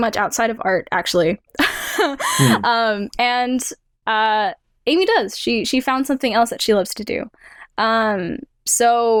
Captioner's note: chuckles